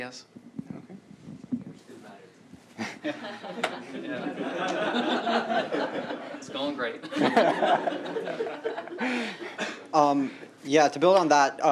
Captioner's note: laughter